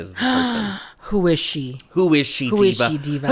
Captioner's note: gasp